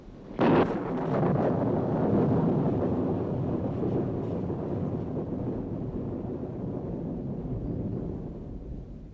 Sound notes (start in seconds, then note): 0.6 thunder rumbling